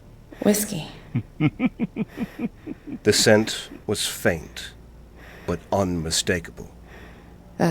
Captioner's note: Vullian giggles, delighted